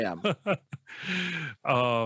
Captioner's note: laughs